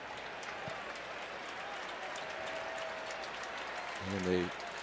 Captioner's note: applause